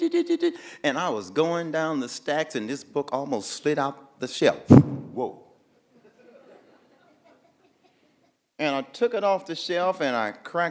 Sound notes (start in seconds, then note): 4.7 book sliding